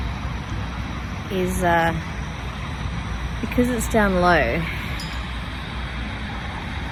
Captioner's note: stove makes high-pitched ting